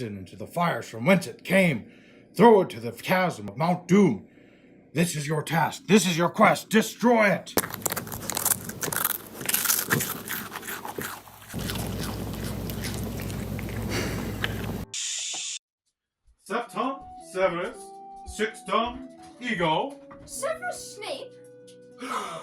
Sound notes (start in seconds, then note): 11.5 crunch crunch munch munch